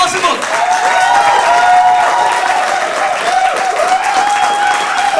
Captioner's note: audience cheers